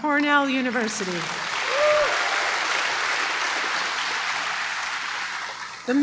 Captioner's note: applause